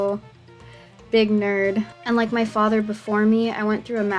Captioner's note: none